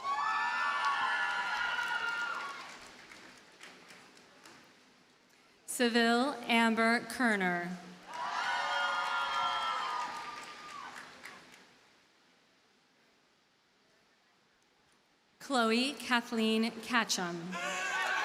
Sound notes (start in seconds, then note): 0.0 audience cheers and applauds; 8.0 audience cheers and applauds; 17.5 audience cheers and applauds